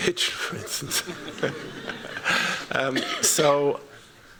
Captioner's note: laughter